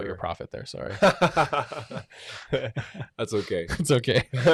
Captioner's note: laughing